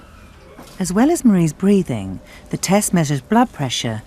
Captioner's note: voiceover